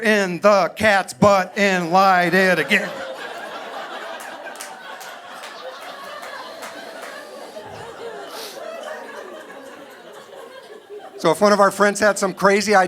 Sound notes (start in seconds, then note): 3.3 audience laughing